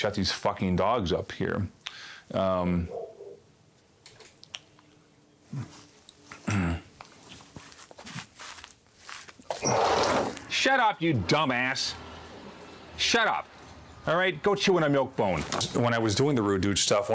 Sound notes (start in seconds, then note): 2.8 dogs barking; 6.4 clears his throat